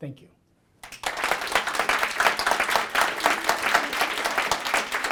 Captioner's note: applause